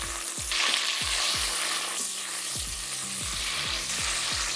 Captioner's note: sizzling sound